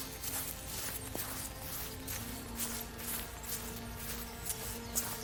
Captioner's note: quiet footsteps on the lawn